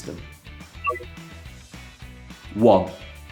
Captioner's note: touchpad bleeps